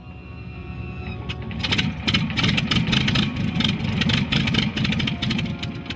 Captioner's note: plane engine starting